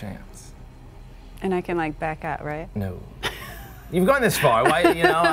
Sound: uncomfortable laughter

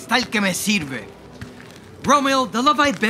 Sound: footsteps approaching

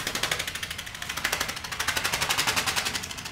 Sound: repetitive thwacking

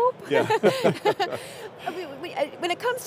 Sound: people laugh

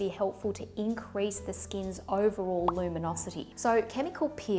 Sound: popping

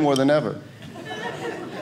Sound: audience laughing

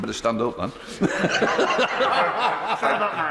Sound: laughter

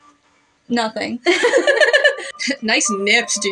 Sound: both Laugh

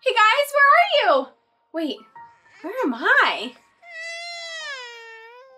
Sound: crying

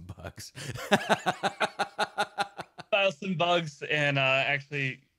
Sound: laughing

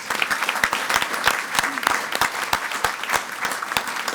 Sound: audience applauding

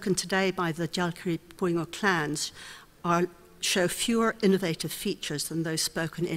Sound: speaks foreign language

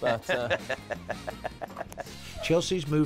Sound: laughs

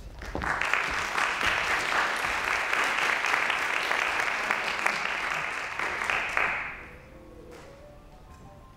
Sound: applause; piano playing

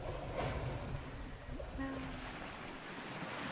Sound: ocean moving

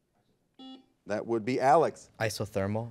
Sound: buzzer buzzes

